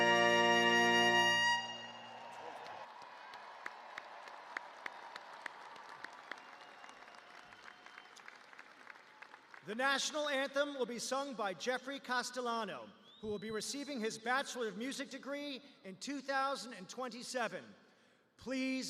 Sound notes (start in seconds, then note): 4.7 cheers and applause